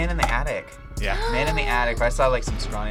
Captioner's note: gasps